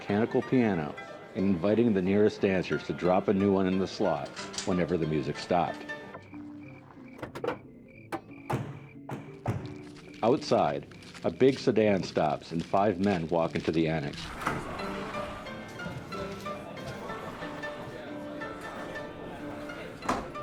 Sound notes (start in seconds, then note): 8.0 car doors slamming; 17.0 bright music